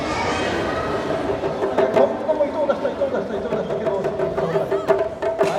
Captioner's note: speaking in foreign language